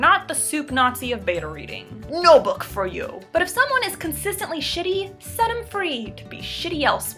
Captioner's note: displeased Tone